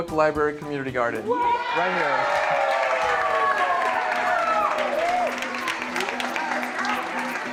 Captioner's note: applause